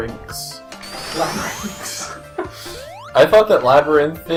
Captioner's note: chuckles